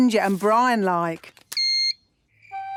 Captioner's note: beep!